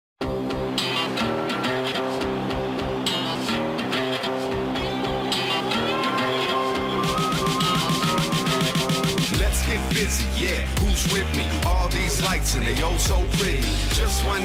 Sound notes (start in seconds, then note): 1.6 crowd chatter